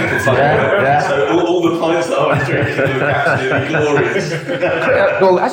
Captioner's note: laughing drowns out speaker